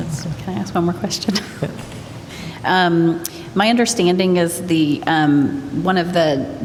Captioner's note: laughter